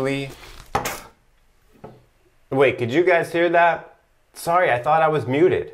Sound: spits in sink

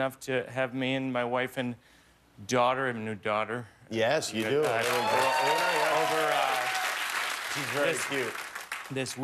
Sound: cheers and applause

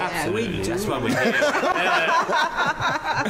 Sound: laughter

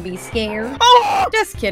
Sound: scream

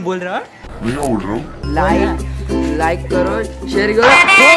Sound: in a friendly and light tone

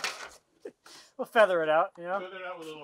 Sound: chuckles

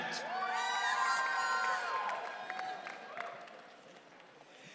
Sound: audience cheering

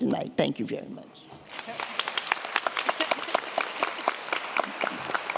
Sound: applause

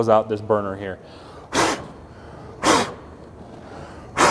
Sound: blowing

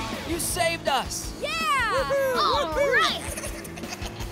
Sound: cheering

